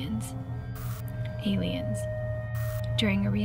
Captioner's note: static crackles; static crackles